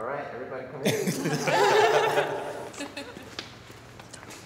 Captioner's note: all laughing